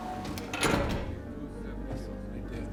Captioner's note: door open close